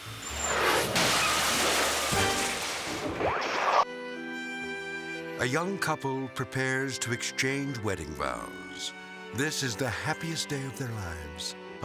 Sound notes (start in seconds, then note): 0.0 jet engine whooshes; 3.0 slides swooshing; 3.9 gentle music